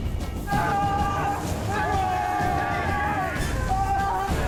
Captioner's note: screaming